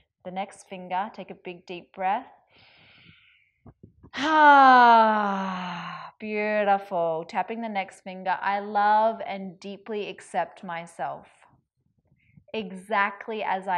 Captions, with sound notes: Tapping the next finger, take a big deep breath. (sighs) Beautiful, tapping the next finger. I love and deeply accept myself exactly as I am